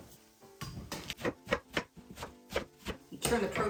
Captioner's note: lettuce bangs; knife chops